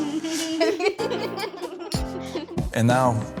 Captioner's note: laughter